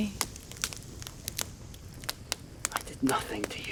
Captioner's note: fire crackling